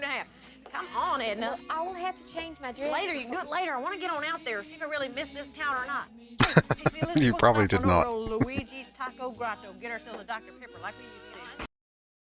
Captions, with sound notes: [Laughing] You probably did not.